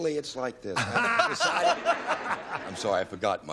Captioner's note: laughs